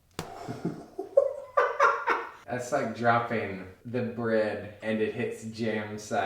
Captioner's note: laughing